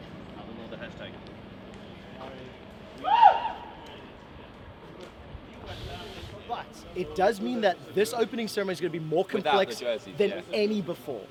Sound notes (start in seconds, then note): 3.0 whooping again